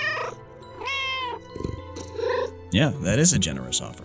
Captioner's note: meow